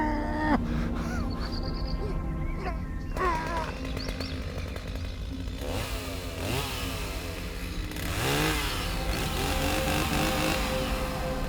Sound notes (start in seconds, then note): 6.4 chain saw whirring